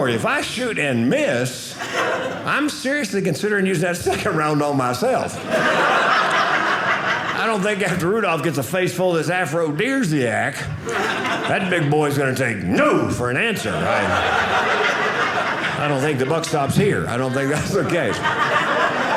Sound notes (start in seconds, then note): 5.2 audience laughing; 13.5 audience laughing